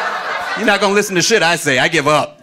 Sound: audience laughing

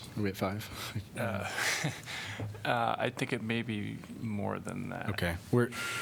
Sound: laughter

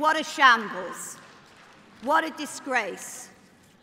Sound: applause

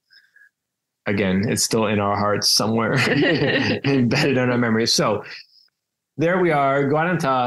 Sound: laugh

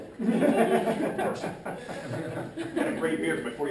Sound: laughter

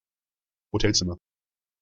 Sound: fast Pronunciation

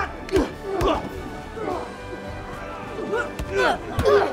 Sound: men grunting

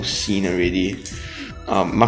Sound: inhales

